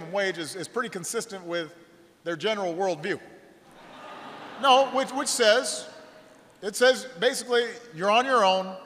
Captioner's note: laughter